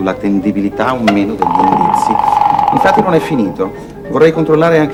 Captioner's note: the telephone rings